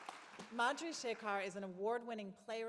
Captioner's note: applause